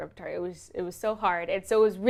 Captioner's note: none